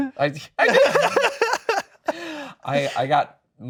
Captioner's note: laughing